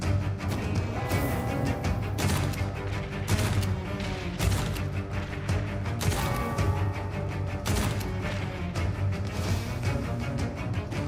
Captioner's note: gunshots